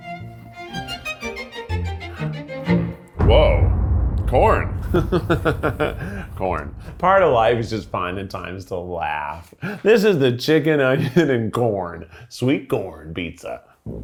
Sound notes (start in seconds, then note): 0.1 gentle bright music; 3.1 tense music; 5.5 laughs